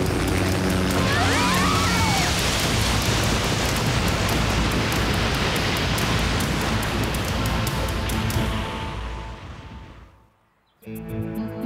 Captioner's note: scream